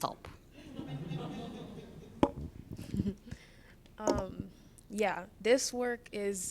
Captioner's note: laughter